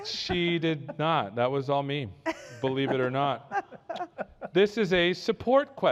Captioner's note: laughter